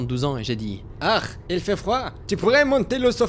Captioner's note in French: accent allemand